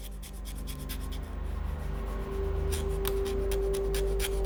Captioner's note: pen scratching